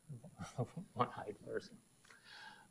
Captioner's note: laughs